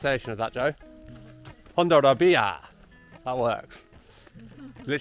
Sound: puts on Spanish accent

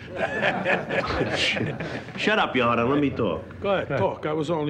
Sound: laughter

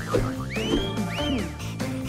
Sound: whistles

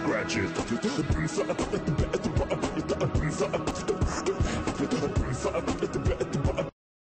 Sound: beatboxing intensifies

